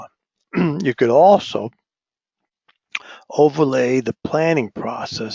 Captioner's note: cough